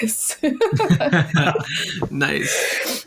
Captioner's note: all laugh